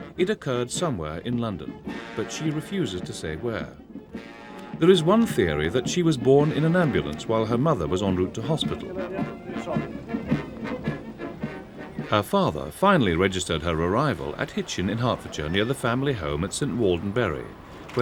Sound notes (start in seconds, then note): 9.2 chattering; 9.2 regal music